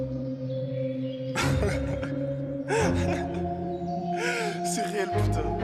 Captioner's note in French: Rires